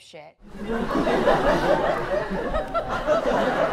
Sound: audience laughs

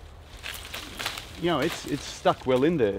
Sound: cane rattles

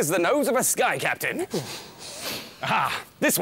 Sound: sniff!

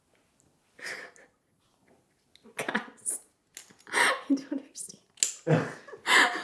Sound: laughs

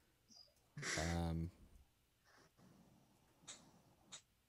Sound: laughs

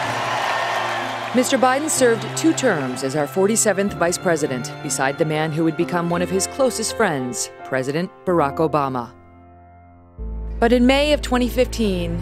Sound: applause

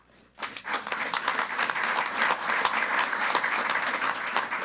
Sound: group applauding

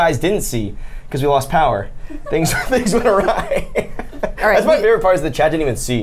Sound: laughs

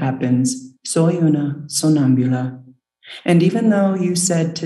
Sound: speaks in foreign language

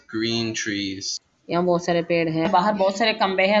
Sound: speaking hindi

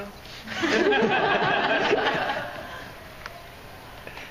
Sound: laughing

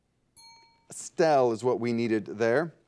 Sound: bell dings

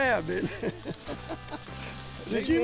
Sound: laughing

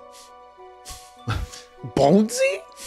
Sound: sniffing

